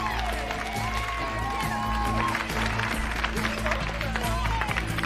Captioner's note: inmates cheering